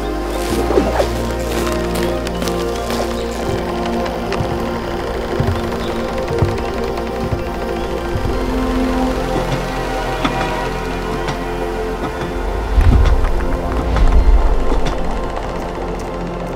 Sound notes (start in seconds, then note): 4.1 tree limb creaks; 9.8 train horn sounds; 12.0 footsteps